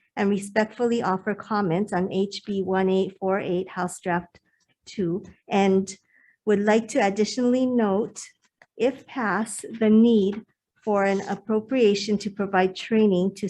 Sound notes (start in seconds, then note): none